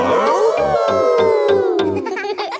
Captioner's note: howling; all howling